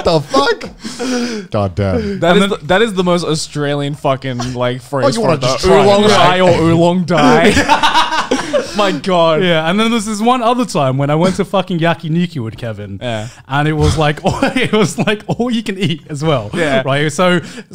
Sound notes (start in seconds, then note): 7.1 men laughing; 13.8 laughs